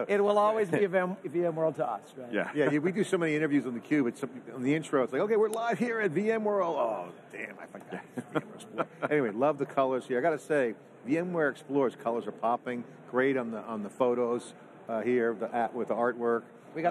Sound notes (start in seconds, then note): 7.8 laughing